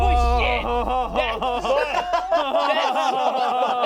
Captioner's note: everyone laughs